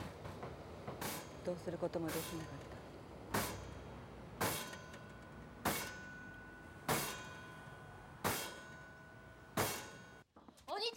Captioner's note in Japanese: 自販機を蹴る音